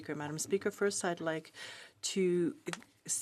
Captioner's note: speaking French